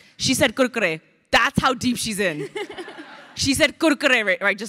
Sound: crowd laughing

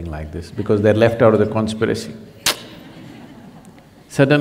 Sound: laughter

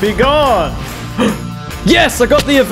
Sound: gasp

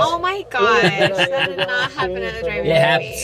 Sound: laughs

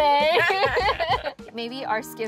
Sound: both laugh

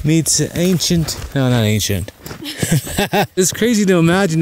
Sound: laughs

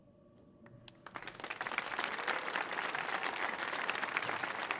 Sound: audience applauding

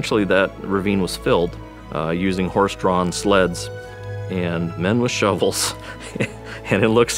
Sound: laughs

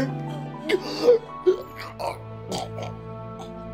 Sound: dying chokes

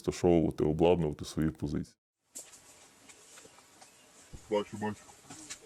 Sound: sound of footsteps in the forest

